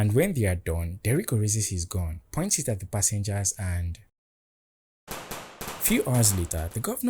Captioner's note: machine gun shots